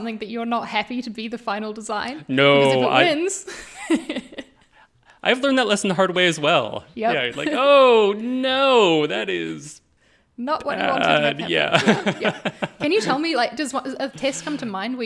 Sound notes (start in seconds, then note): 4.1 all laughing